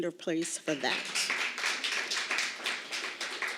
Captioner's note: applause